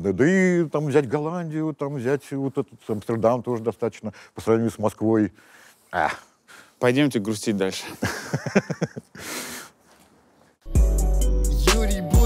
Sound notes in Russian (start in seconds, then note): 8.0 смеется